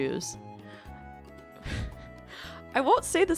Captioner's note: laughs